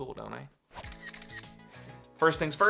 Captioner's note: camera clicks